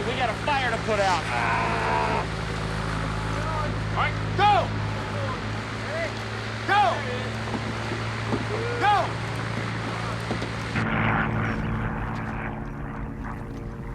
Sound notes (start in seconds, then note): 1.3 grunts